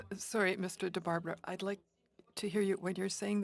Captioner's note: speaking French